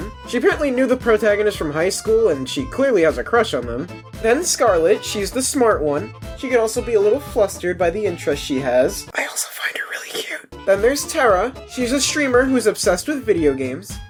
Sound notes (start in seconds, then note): 8.9 whispers